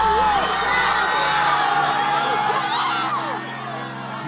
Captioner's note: crowd screaming